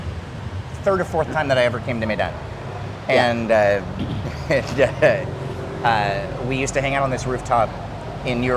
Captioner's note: laughing